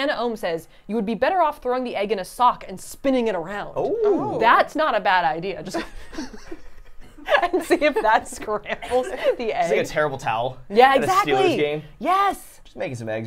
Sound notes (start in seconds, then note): 6.1 everyone laughs